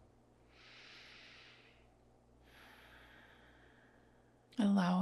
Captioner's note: instructor inhales and exhales